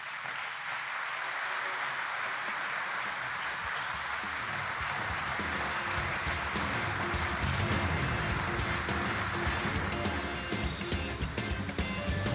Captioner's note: applause